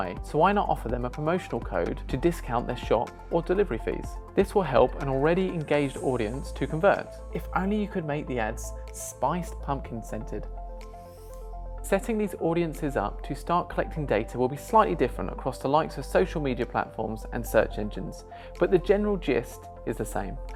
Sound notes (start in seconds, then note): 11.0 sniff